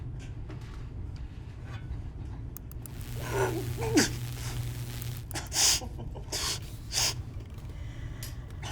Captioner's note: electric charge